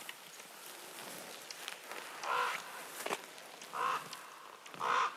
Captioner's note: bird crowing